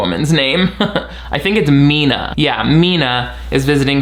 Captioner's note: chuckles